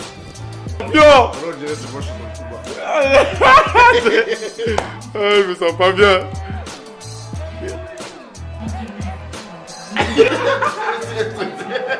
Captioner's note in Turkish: kahkaha